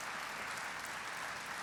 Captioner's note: applause